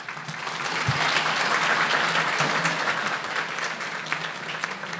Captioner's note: audience applauding